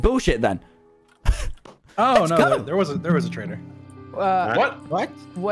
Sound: laughs

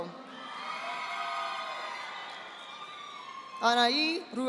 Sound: audience applauding

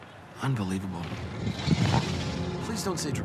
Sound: dragon growling

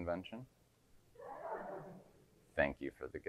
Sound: audience giggling

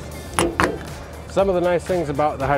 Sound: snapping lock

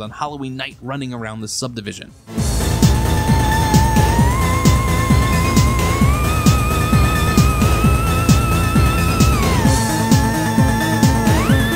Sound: ghost sounds

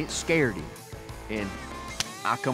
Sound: smack

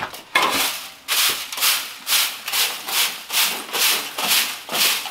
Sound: broom scraping against floor

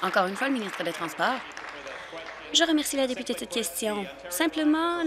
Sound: applause

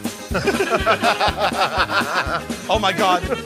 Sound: laughing

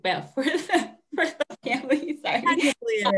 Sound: laughing; laughs

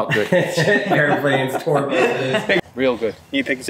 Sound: group chuckles

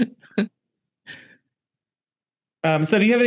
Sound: laughter

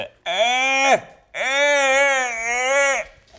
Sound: groans

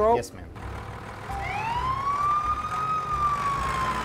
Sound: sirens wail

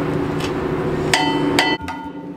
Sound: loud dinging

